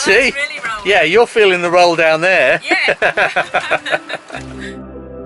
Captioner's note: chuckles